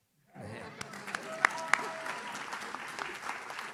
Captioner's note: audience cheers